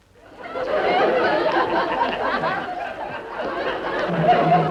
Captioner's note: audience laughing